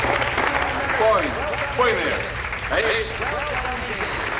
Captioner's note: crowd applauds; judge speaking in Japanese